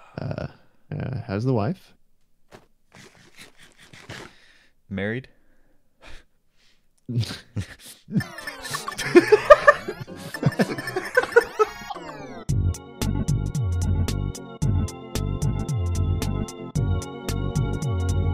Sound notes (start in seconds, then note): 8.0 snickering realization; 8.1 laughter